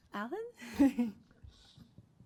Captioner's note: chuckles